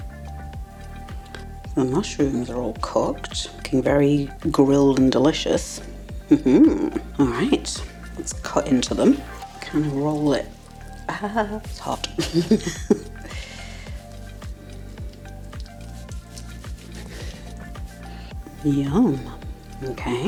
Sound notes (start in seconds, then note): 16.3 laugh